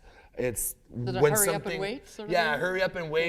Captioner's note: none